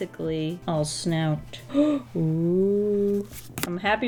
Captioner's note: gasps